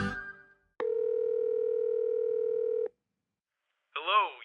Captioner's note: phone ringing